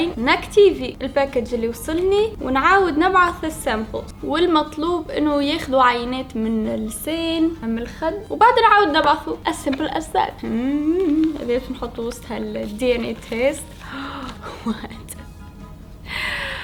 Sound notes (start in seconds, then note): 10.4 hums; 13.8 gasps